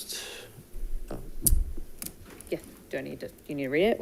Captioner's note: mumbles